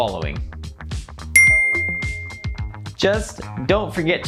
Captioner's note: bell dings